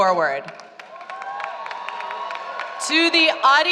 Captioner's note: applause